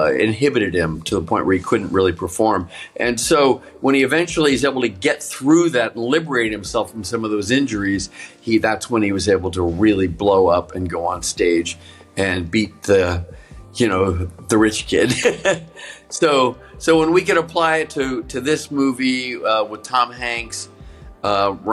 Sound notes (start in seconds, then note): 15.0 Brian laughing